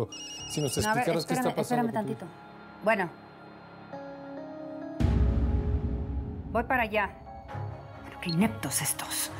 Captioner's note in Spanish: Suena un celular